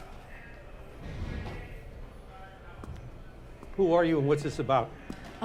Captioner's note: distant inmate voices